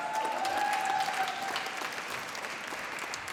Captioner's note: applause